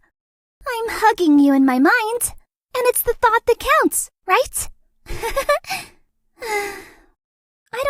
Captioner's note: sigh